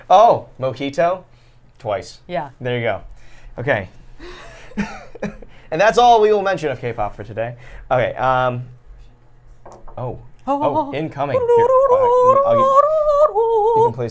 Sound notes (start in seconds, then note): 4.3 laughs; 10.3 humming